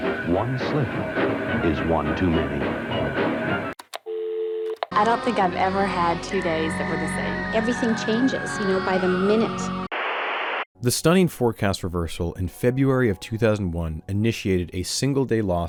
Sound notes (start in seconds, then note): 3.7 click; 4.0 dial tone; 9.9 static